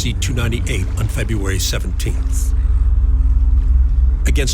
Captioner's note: water gently rippling